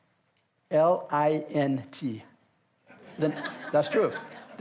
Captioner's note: audience laughs